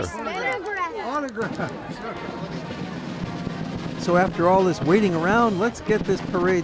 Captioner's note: kids talk